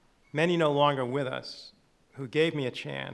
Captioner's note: none